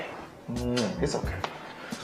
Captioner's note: kiss